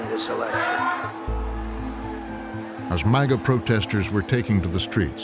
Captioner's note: crowd cheering